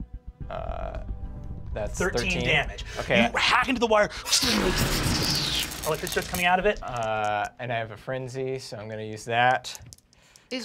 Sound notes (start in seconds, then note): 4.4 electric fizzing